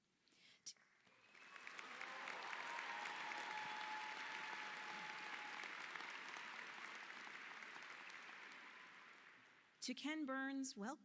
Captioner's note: applause